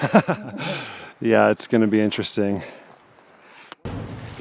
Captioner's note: laughing